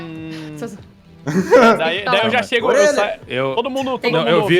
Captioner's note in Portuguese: Risada